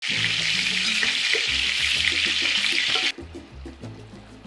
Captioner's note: sizzling sound